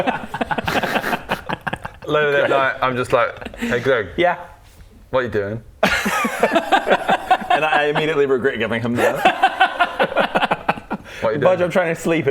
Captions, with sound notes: *extra-friendly giggles* Later that night I'm just like Hey Greg Yeah? What you doing? *laughs* And I immediately regret giving him the What you doing? Bodger I'm trying to sleep